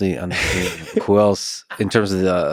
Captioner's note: Tim laughs